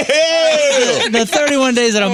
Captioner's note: laughing